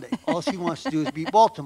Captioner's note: laughs